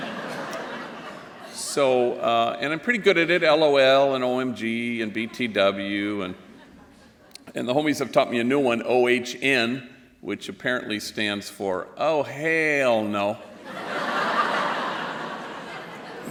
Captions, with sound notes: And I'm pretty good at it, LOL, and OMG, and BTW. And the homies have taught me a new one, OHN, which apparently stands for oh hail no. [LAUGHTER]